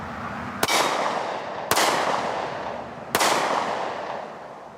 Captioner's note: gun banging